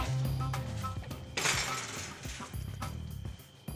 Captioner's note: kicks trap